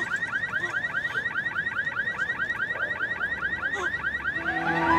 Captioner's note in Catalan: alarma: continua; cotxe: alarma